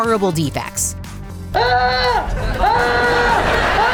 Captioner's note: screaming